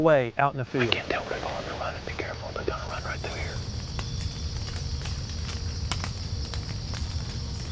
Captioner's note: whispering